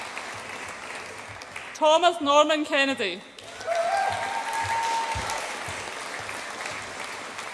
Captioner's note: audience applauds and cheers